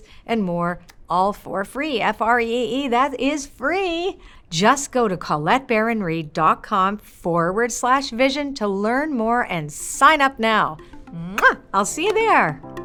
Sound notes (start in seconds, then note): 11.3 kisses